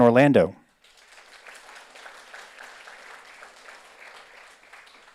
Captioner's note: audience applauds